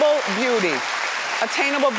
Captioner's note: audience cheering